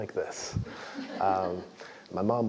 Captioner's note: laugh